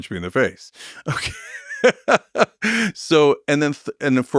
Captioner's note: laughs